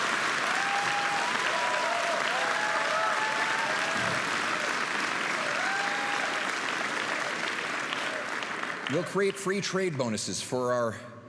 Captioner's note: applause and cheering